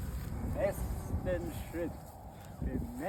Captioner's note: in German